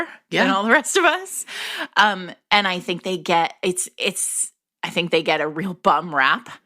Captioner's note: laughs